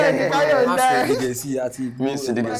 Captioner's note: laughs